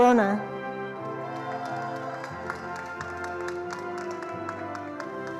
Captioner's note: attendees applauding